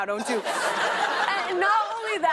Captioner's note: laughter